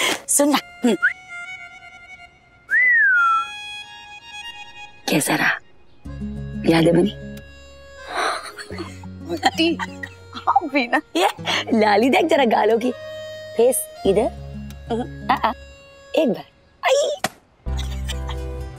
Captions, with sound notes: Listen up! [whistling] How was the experience? [giggling] Aunt, you are embarrassing me! [chuckling] You are blushing! Move your face to this side. Just once! Oh, my!